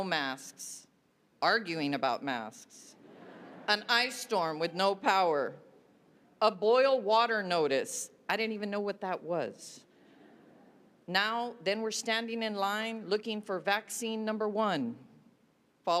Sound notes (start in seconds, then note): 6.5 laughter